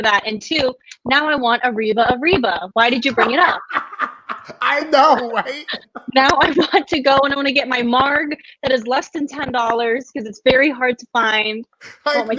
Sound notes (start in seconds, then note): 2.8 laughing loudly